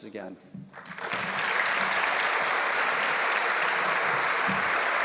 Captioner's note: audience applauds